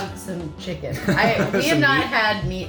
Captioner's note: chuckling